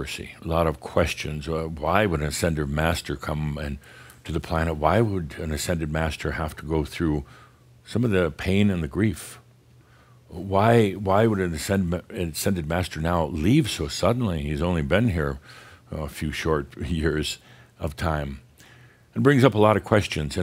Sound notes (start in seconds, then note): none